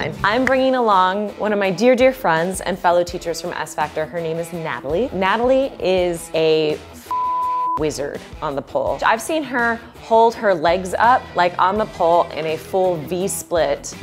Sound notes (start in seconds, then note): 7.0 beep